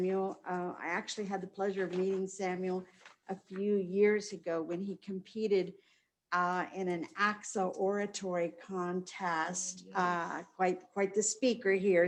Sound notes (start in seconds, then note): none